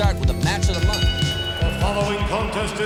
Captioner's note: bell ringing